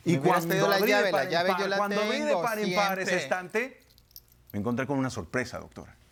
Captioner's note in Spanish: Hablan al unísono